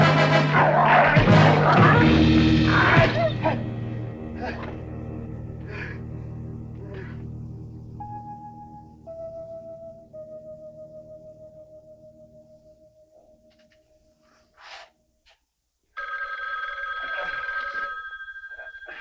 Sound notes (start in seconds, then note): 2.9 dog whimpering; 5.6 David gasping; 7.9 somber music; 15.9 phone ringing; 18.7 David groaning